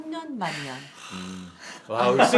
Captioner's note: sigh